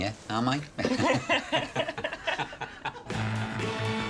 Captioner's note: laughter